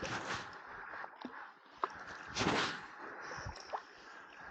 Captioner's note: paddling